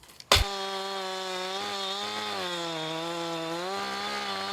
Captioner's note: saw engine rattling